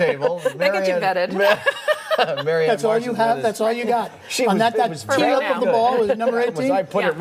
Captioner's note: laughter